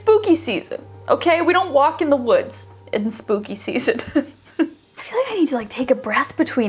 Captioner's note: laughs